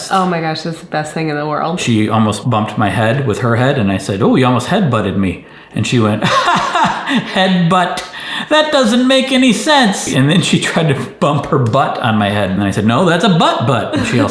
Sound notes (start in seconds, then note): 6.2 laughs